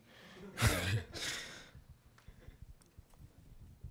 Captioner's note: laughs